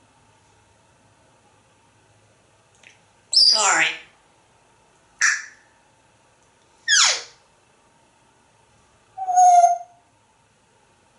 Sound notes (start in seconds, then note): 5.2 chirps and squeak sounds